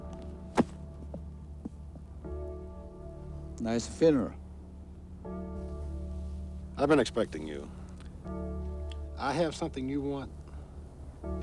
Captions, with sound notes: (bible thumping) - Nice funeral. - I've been expecting you. I have something you want